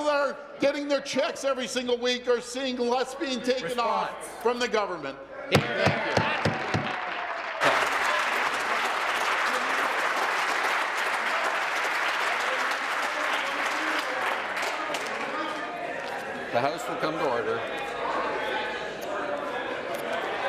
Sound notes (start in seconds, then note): 12.3 applause